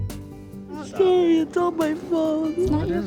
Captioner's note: crying